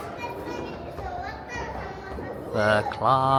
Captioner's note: children shouting